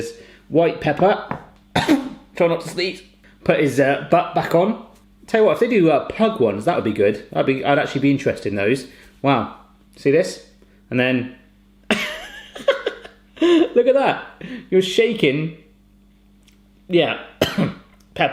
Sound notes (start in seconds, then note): 1.7 coughs; 12.0 laughing